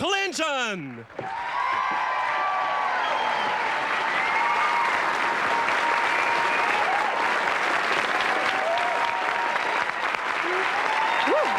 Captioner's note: audience cheers and claps